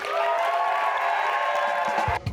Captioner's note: cheers and applause